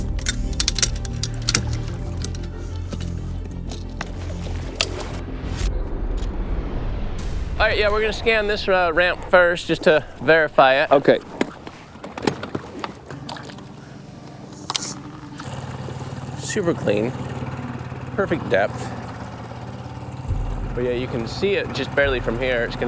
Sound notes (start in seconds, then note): 0.0 metal clanking; 4.8 latch clicks; 5.3 air whooshing; 13.4 water sloshing; 15.7 engine chugging